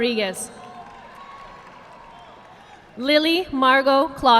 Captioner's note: audience clapping